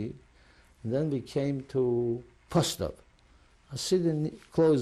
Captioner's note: non-english